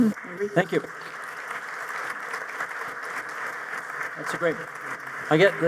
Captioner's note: audience applauding